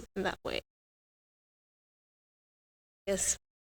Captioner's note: audio out